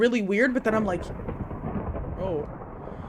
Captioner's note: thunder booms